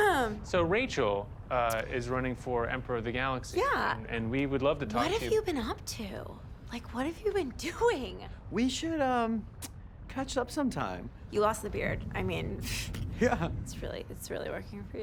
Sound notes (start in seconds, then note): 13.1 chuckles